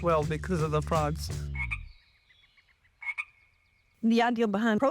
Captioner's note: frog croaks